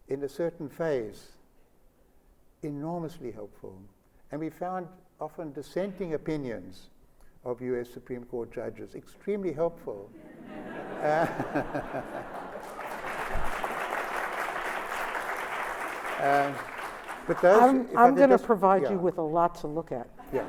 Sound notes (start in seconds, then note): 10.2 laughter; 12.0 applause